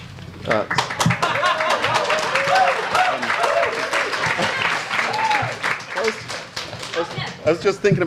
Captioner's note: audience laughs and applauds